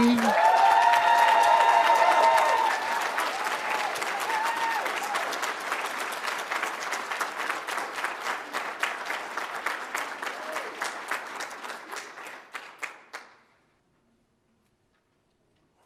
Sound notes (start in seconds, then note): 0.0 audience cheers; 0.8 audience applauds